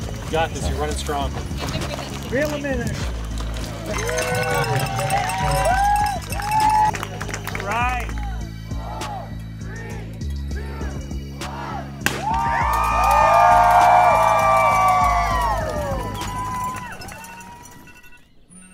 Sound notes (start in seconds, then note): 3.6 cheering; 12.0 gunshot; 12.1 cheering